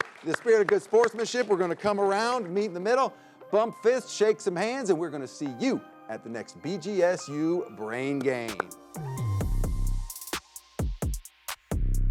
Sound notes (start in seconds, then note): 8.1 upbeat music; 8.4 clapping; 10.5 upbeat music